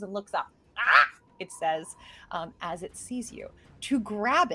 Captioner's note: squawks